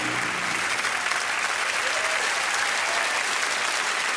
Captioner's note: cheering and applause